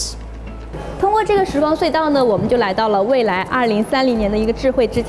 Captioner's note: speaks foreign language